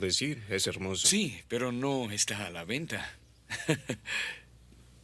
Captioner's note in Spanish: risos